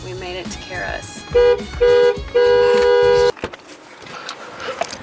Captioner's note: car honk